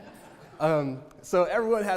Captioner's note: audience laughter